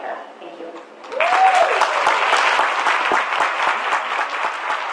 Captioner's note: audience applauds